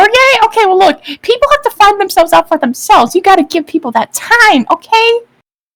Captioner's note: inhale